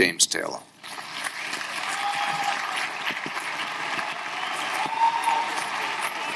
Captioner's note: audience applauding; audience cheering